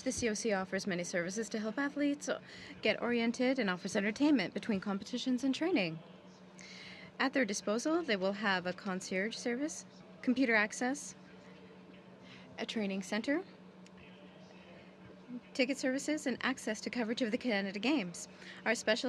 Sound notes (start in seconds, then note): 2.5 speaking french